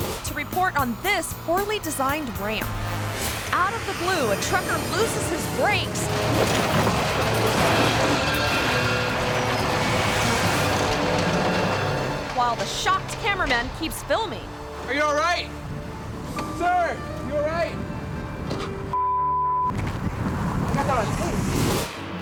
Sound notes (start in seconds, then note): 6.3 dramatic music; 6.3 truck banging and crashing; 18.9 beep